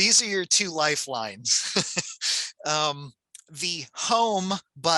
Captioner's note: chuckles